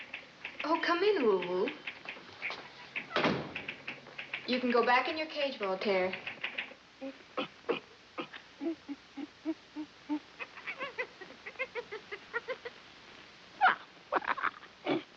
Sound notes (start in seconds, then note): 3.0 typewriter clacking; 8.2 grunting